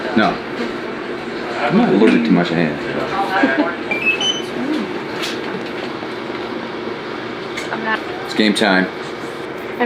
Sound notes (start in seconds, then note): 3.1 laughs; 3.8 beeping